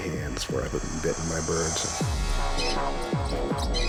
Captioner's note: birds tweeting